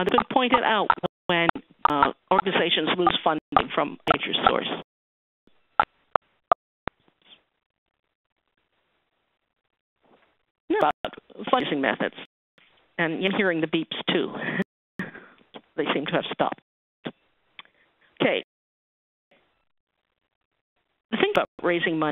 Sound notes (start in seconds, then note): 14.4 laughter